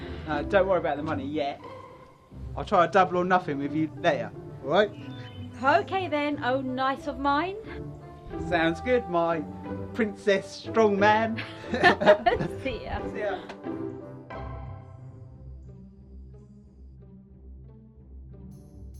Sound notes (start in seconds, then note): 11.4 laughing